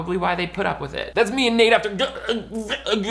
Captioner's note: stuttering